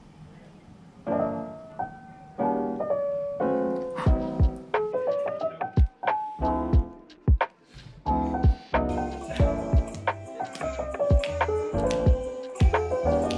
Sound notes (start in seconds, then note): 6.6 laughs